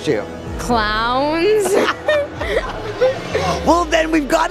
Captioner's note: laughing